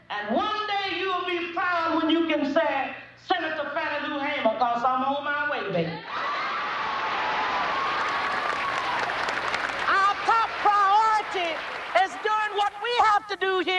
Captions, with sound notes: and one day, you will be proud when you can say, "Senator Fannie Lou Hamer," because I'm on my way, baby. (audience cheers and applauds) Our top priority is doing what we have to do